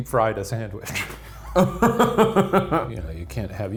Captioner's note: laughing